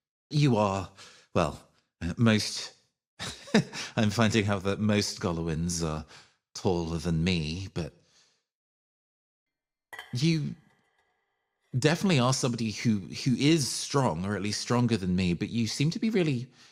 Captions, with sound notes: You are Well... Most... [Chuckles] I'm finding out that most Goloins are Taller than me, but You Definitely are somebody who-who is strong, or at least strong than me but you seem to be really